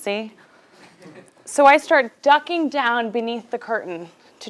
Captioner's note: laugh